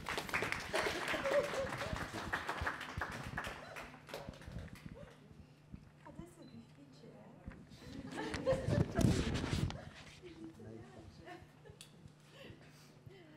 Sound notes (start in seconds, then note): 0.0 applause; 6.2 background chatter